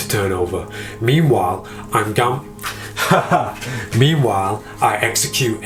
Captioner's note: laughs